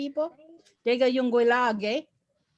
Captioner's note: foreign language spoken